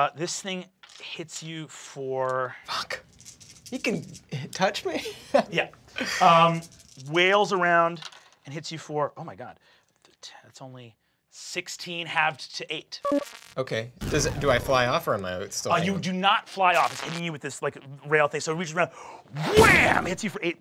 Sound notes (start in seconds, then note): 5.1 chuckles